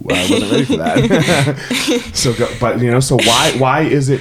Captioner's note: chuckling